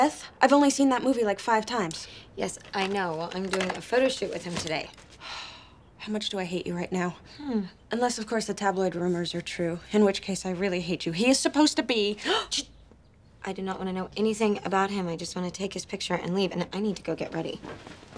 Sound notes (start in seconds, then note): 5.2 sigh